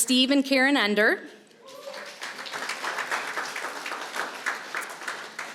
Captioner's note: applause